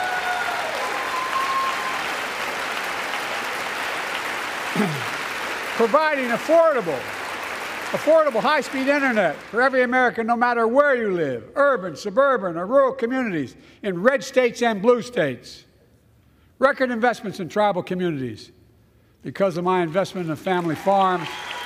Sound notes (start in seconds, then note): 0.0 applause